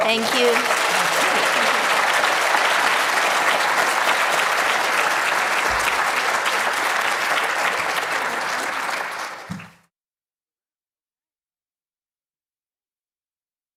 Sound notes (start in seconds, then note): 1.1 applause